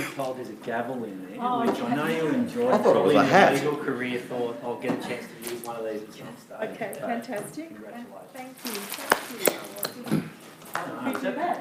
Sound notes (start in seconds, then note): 1.6 audience murmuring